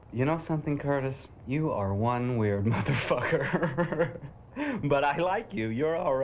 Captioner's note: laughs